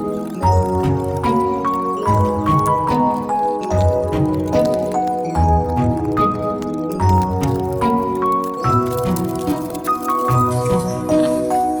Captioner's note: pleasant unboxing sounds